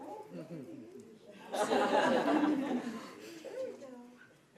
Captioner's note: laughing